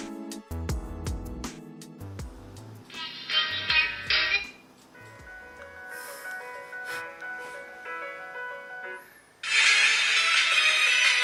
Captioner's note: sound from the phone